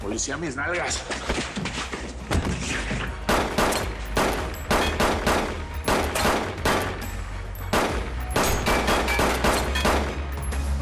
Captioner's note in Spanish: Disparos